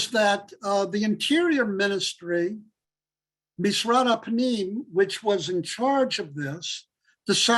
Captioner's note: Hebrew